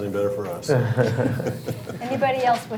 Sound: chuckles

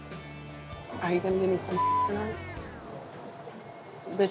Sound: beep

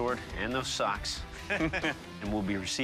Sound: chuckling

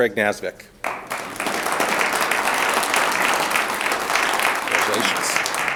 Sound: audience applauds

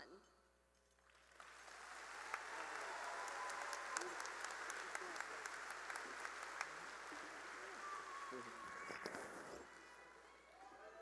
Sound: cheering and applause

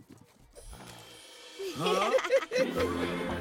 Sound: laughing

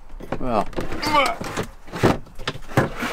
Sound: groan

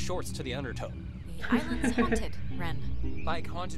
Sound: laughs

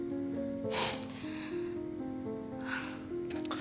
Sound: sigh

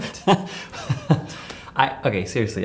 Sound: laughs

